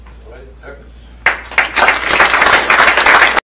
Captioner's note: applause